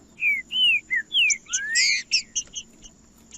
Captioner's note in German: trinca ferro cantando